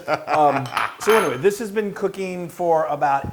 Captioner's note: laugh